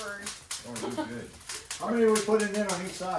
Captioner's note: laughs